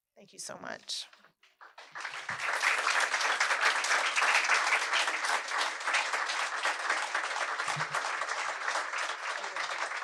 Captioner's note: applause